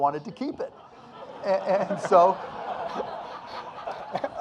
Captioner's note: audience laughing